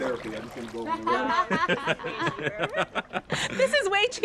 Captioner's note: laughing